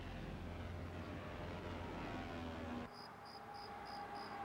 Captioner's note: plane engine roaring